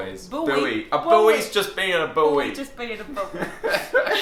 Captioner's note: laughing